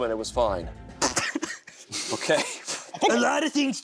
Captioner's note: laughter